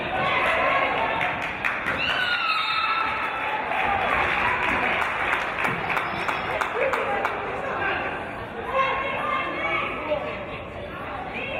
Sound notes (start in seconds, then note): 2.8 referee's whistle